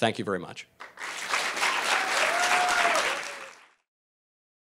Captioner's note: audience applause